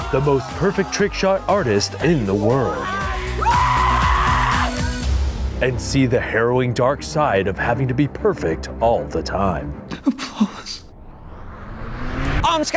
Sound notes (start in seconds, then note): 3.2 guys cheering; 9.9 sobbing